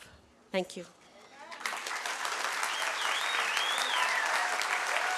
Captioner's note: applause